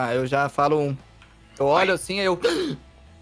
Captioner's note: gasps